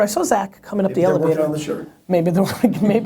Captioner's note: voiceover